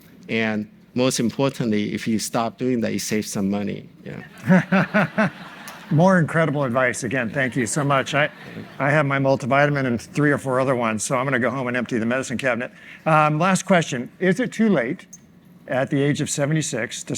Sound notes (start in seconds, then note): 4.2 audience laughs